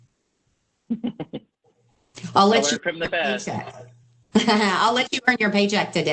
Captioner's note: laughs; laughs